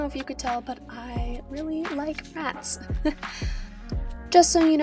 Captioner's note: self-conscious laugh